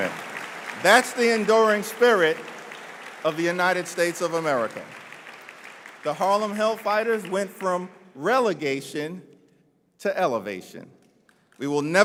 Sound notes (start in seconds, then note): 3.0 applause